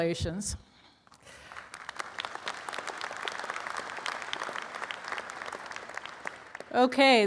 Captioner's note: applause